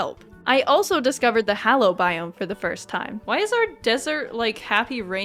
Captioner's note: none